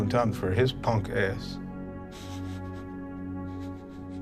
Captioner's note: whimpering